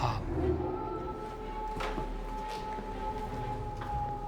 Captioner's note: howling continues